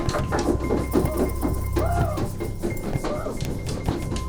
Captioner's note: boy barking and tapping